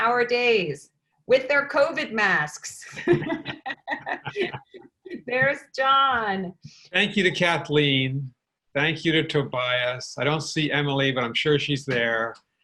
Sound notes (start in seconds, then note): 2.8 laughter